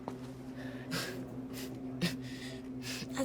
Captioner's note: coughing softly, breathing heavily